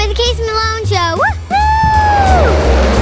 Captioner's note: child cheering; upbeat music